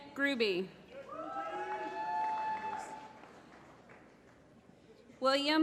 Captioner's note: applause